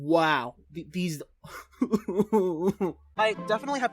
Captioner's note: sob of despair